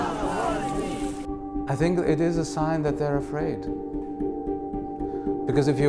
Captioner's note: chanting